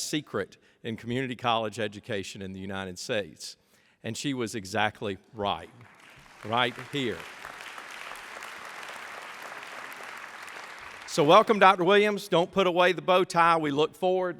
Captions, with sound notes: SECRET IN THE COMMUNITY COLLEGE EDUCATION IN THE UNITED STATES. AND SHE WAS EXACTLY RIGHT. [APPLAUSE] RIG HERE. WELCOME DOCTOR WILLIAMS PUT AWAY THE BOATS I LOOK FORWARD